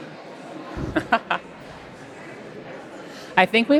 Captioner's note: laughs